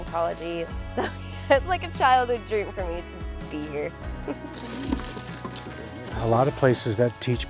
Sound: laughs

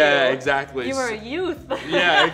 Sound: laughs

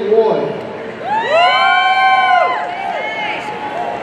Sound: audience cheering

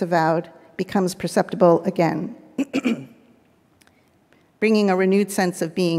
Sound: clears throat

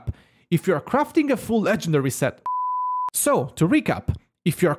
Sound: beep

